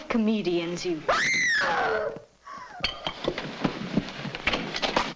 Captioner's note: woman screams nearby